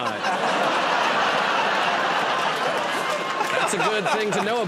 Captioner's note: laughter and applause